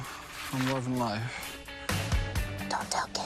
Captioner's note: whispering